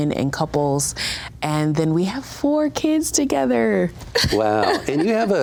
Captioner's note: laughs